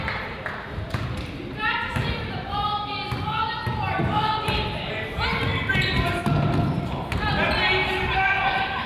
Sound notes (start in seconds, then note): 0.6 coach yells